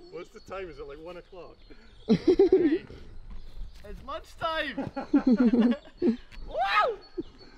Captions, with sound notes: - What's the time? Is it like one o'clock? (chuckles) - It's lunch time! (all laugh) Woo!